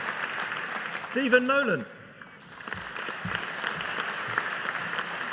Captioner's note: audience applauding